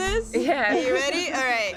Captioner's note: laughs